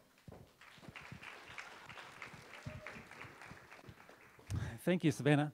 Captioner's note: applause